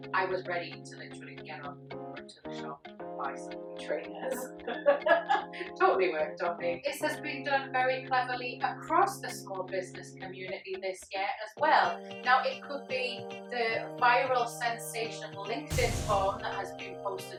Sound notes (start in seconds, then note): 4.2 laughs